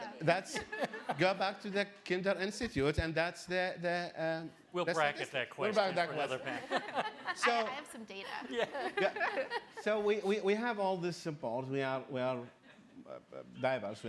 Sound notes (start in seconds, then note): 7.8 woman's Voice; 10.1 laughing